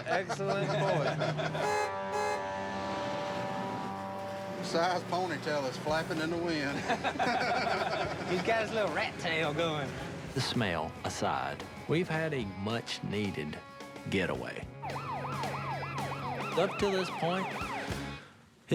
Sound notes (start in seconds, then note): 5.2 police siren